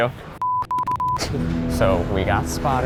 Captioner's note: several beeps